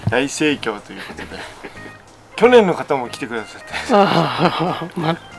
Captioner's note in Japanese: 笑い声